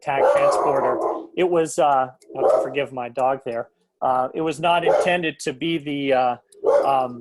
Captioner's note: sound of dog barking